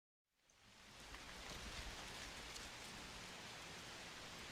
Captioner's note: grass rustling